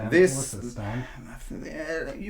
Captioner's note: voiceover